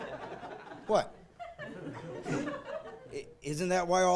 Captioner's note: laughing